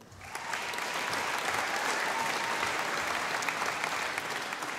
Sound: audience applauding

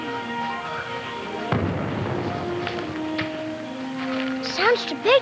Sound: boom rumbles

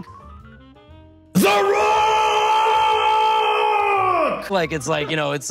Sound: screams

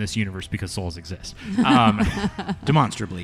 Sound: laughs

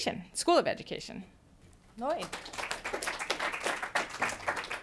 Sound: applause

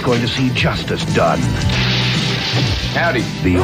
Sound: glass shatters

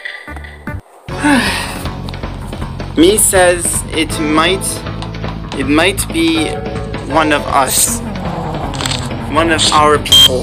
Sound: sighs

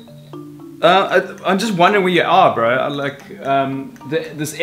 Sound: stutters

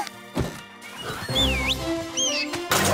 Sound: whistling

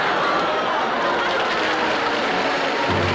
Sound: crowd applause

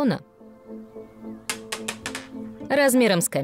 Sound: marble bouncing

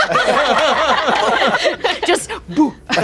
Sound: all laughing

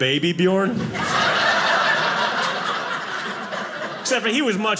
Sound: audience laughing

